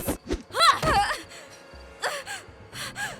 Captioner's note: grunts